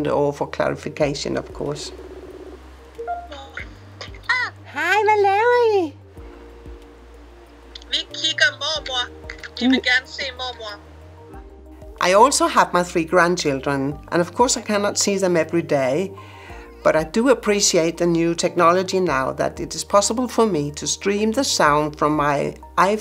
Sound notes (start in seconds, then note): 1.9 phone ringing; 3.7 in Danish; 7.8 in Danish